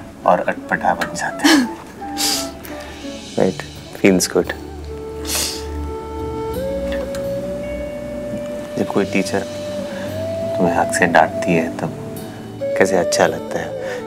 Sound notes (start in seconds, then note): 1.4 Giggling; 5.2 Sniffs